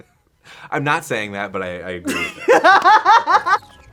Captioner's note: laughing; laughs